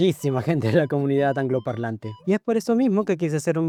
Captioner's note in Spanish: ríe